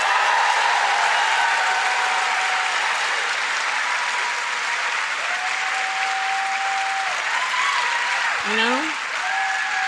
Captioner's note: applause